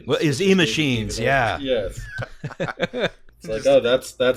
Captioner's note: laughter; laughter